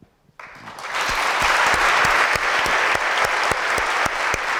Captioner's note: applause